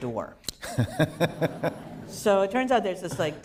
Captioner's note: laughter